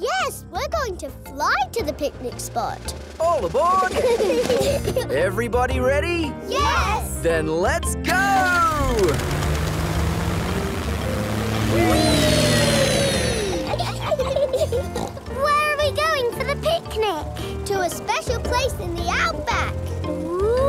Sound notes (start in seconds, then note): 3.8 children giggle; 13.2 laughs and snorts